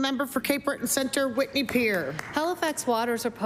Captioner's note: some Applause